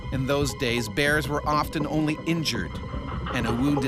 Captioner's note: voiceover